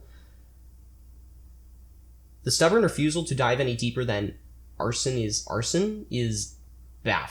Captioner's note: deep breath